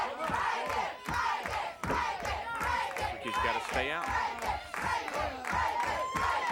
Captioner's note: applause